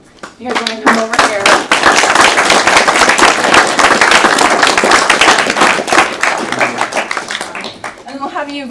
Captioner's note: applause